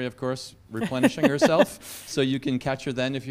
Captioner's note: laugh